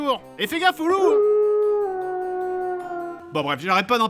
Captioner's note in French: cris de loups